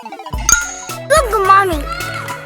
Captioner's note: magical ting